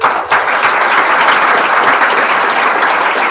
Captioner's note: applause